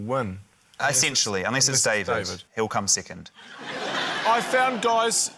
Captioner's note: laughter